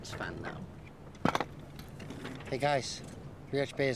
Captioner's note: compass clatters